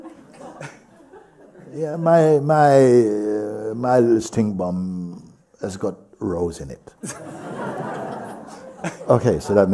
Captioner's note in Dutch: gelach; gelach